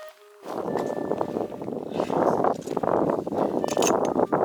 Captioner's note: wind Noise